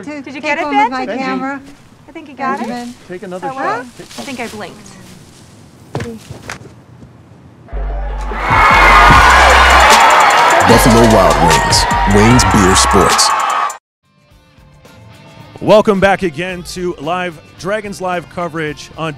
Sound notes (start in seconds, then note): 8.9 applause